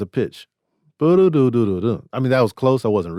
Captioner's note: hums